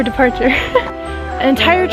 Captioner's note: laughs